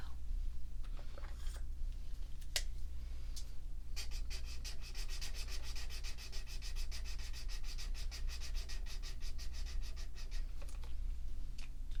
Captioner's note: marker swatching sounds